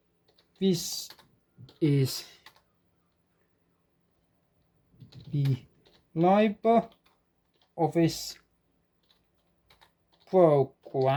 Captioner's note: keyboard typing whlist saying what i put in